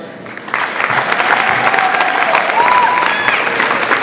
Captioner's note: audience applauds